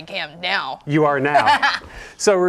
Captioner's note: laughing